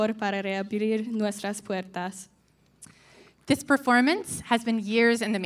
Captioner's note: none